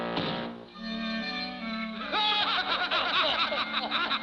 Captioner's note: laughing